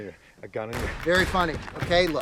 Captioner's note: gunshots